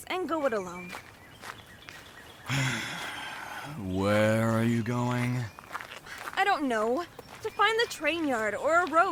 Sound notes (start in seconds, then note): 2.4 sighs